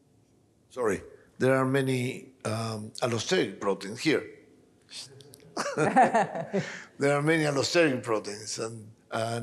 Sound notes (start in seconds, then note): 5.6 all laughing